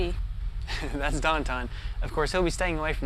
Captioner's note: laughs